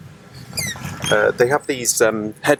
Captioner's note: seat squeaks